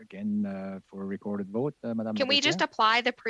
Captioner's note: speaking French